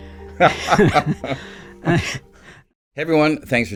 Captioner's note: both laughing